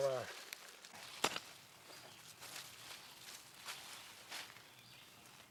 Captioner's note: leaves rustling